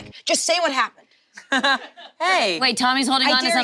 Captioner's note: laughs